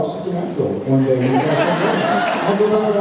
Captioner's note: laughs